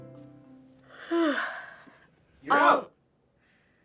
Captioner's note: yawning